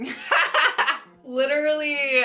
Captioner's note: laughs